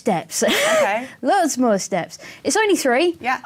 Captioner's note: chuckles